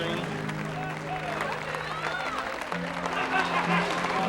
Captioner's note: crowd cheering